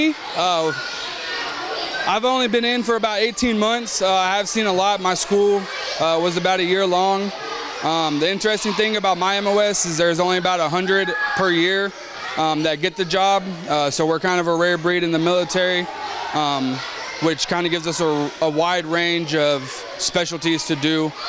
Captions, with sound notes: is there's only about 100 per year that get the job. So we're kind of a rare breed in the military, which kind of gives us a wide range of specialties to do that not most other MOSs can do in the military. (students chatter)